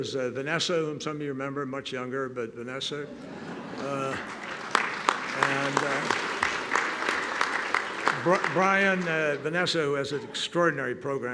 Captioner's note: laughter